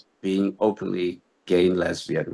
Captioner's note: none